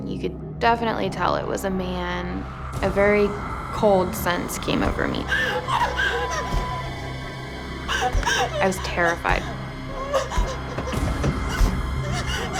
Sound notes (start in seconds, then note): 8.2 panicked gasping